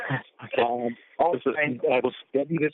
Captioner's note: chuckle